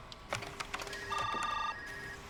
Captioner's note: keyboard clacking; phones continue ringing